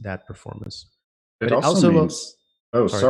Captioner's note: chatter